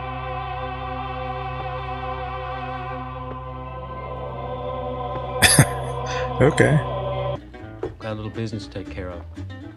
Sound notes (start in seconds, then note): 5.4 chuckling